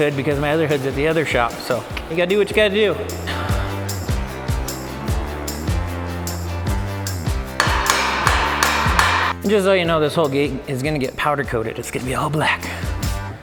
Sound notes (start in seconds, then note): 3.5 upbeat music; 7.5 metal banging; 13.2 upbeat music